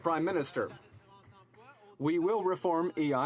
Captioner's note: some Applause